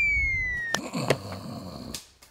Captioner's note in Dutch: gesnurk